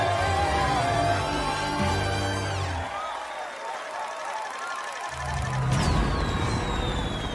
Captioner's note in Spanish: Aplausos